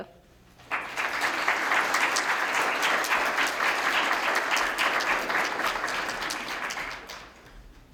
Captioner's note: applause